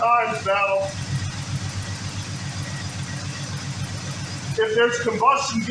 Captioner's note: engine idling